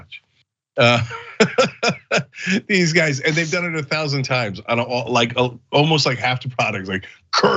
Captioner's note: laugh